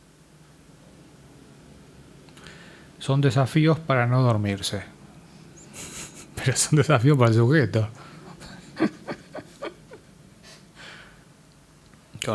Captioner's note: haha